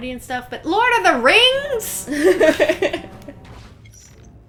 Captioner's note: laughter